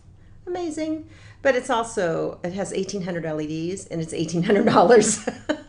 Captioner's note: laughs